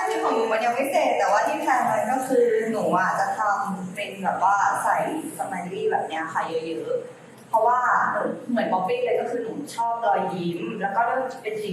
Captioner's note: explains her concept in Thai